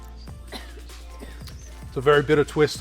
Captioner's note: coughs in background